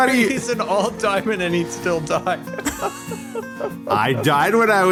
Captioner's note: laughs